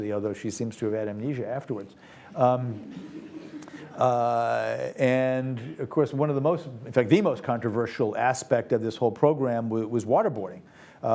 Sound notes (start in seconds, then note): 2.6 audience laughs